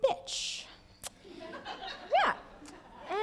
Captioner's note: laughter